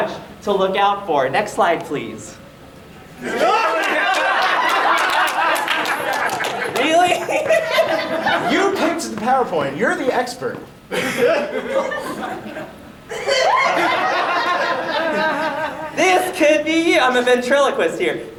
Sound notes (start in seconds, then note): 3.2 shocked audience laughter; 6.6 laughing; 10.9 audience laughing